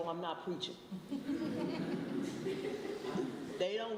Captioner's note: laughter